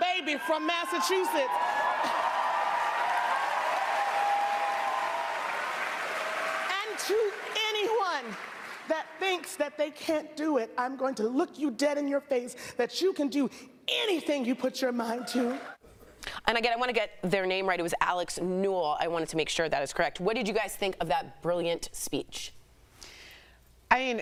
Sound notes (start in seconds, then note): 3.3 applause